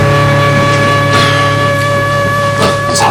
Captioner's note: Ben sighs